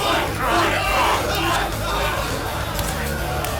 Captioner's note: men grunting; crowd